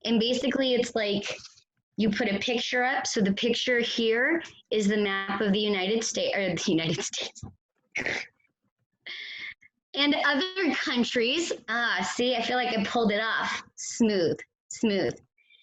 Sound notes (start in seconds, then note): 8.0 laughs